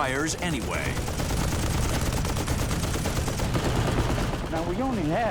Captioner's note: gunfire